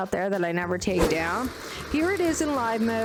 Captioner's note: whoosh